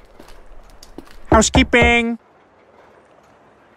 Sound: knocks

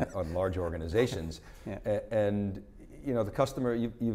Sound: laughing

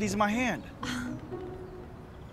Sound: sighs

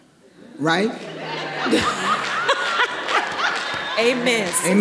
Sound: everyone laughing; audience applauding

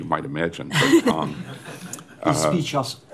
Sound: laughter

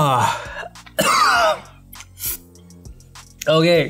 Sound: coughs

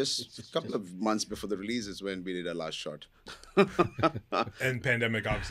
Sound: chuckles

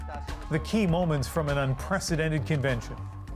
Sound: cheers and Applause

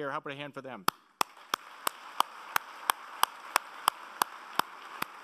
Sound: applauding

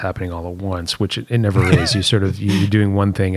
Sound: laughter

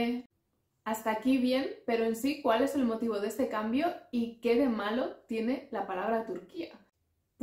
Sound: in Spanish

